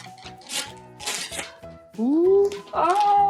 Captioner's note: ripping paper